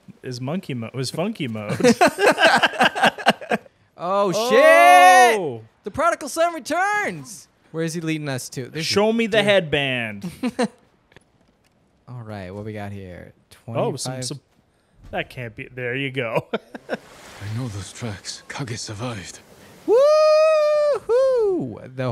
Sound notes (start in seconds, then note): 1.7 both laughing; 10.4 chuckles; 16.3 chuckles